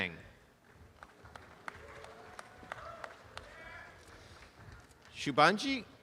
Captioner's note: applause